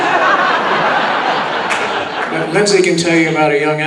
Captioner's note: audience laughing